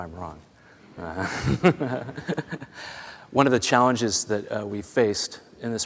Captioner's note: laughter